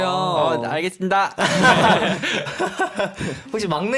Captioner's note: tertawa